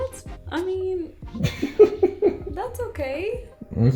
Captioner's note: laughter